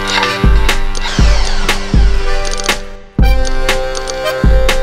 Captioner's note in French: entrechoquement métallique; vrombissement de perceuse